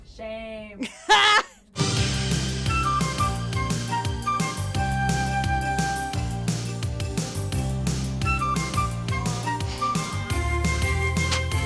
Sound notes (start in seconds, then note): 0.8 laughing; 1.9 light energetic music